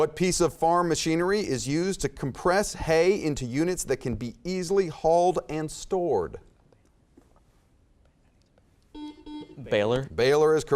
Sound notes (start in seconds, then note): 7.0 whispering; 8.9 beeping